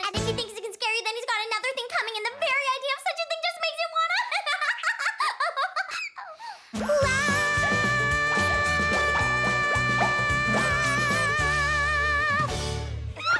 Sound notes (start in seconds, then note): 4.0 laughs